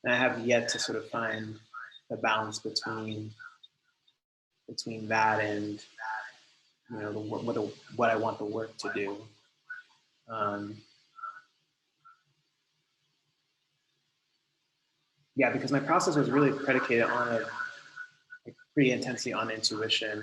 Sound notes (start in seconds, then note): 15.4 laughs